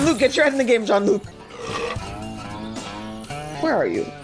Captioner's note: belching and banjos